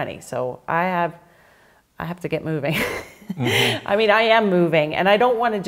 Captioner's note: laughs